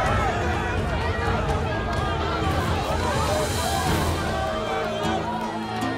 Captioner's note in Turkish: Kalabalık bağrışma sesleri